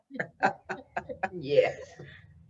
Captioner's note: laughing